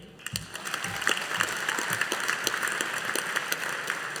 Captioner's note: audience applauding